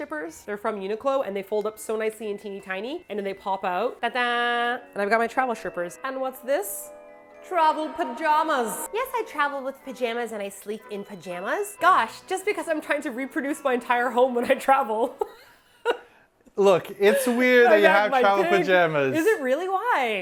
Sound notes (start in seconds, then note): 14.8 laughing